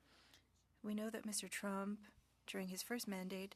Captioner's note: speaking French